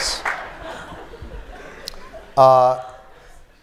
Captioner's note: laughter